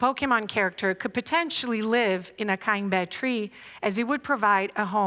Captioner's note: non-english speech